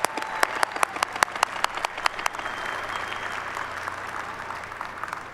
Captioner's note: applause